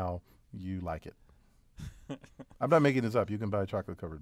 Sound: laugh

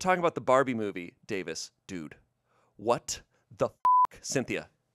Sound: beep

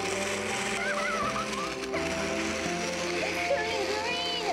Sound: giggling

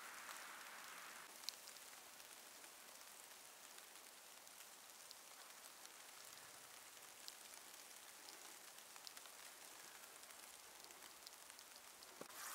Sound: snow flurry, light crackling

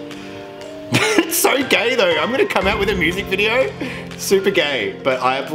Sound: laughs

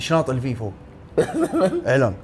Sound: laughs

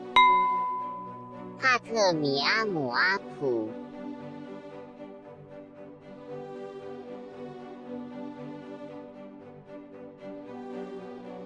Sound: bell; non-english speech

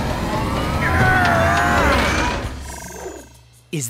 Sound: Blaze groans

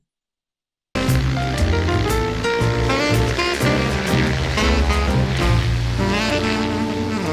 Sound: plane whirs; upbeat music

